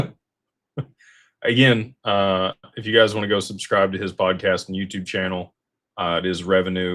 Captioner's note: laughter